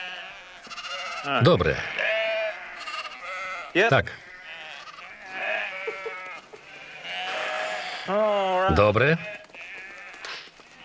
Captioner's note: bleating continues